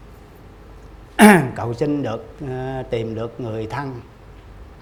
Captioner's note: clear the throat